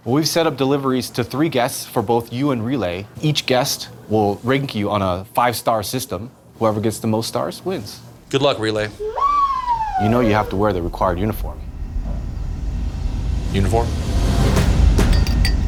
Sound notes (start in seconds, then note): 8.2 whirring; 14.5 suspenseful music; 15.0 clinking